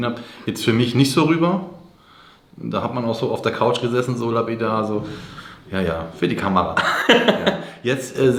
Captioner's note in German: gelächter